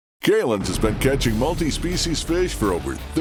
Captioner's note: voiceover